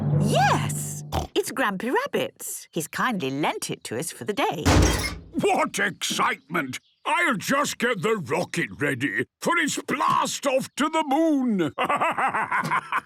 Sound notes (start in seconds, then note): 4.6 metallic door bursting